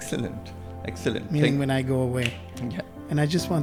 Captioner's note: snaps